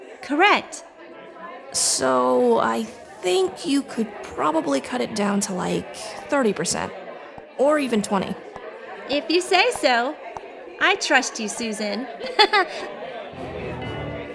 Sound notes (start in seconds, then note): 12.3 chuckle